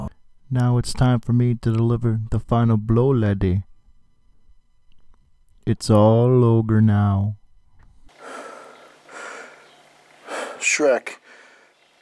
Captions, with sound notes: Now it's time for me to deliver the final blow laddie It's all ogre now [heavy breathing] [heavy breathing] Shrek... [heavy breathing]